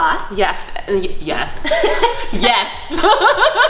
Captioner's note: laughing